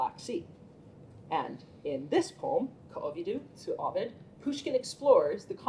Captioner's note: russian